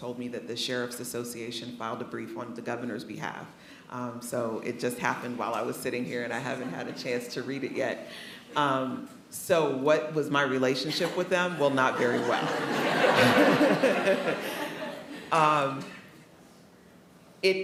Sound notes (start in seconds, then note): 12.6 attendees laughing; 13.9 laughs